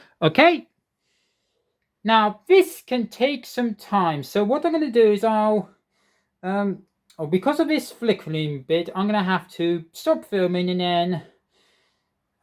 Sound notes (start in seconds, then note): none